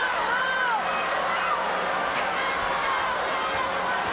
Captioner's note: crowd shouts